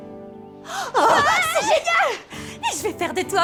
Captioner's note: screaming for joy